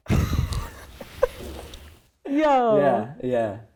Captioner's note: guy and girl laughing